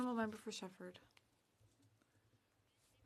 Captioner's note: speaking French